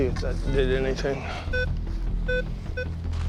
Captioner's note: beeping